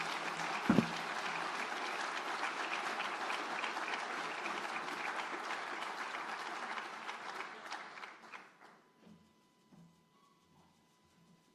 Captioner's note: speaking French; applause